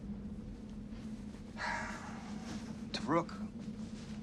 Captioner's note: Sinclair sighs